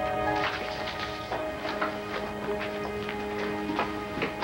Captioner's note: doorbell rings